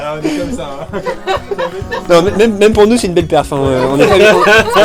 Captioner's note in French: rires